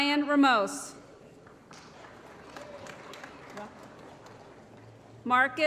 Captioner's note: applause